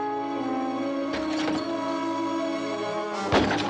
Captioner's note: glass shatters